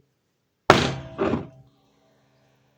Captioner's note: bang